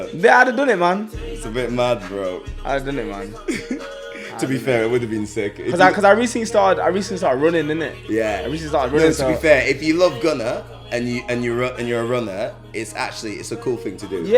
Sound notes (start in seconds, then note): 3.3 laughs